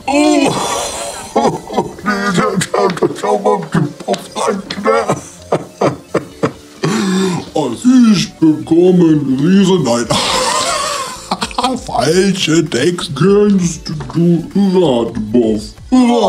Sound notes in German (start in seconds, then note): 10.0 lach